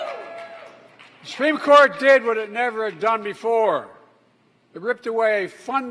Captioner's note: applause